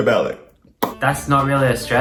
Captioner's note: smacks lips